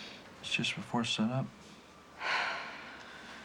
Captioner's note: sighing